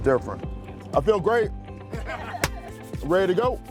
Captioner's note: group laughing